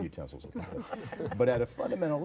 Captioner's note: group laughter